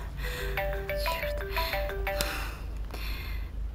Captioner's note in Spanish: suena el teléfono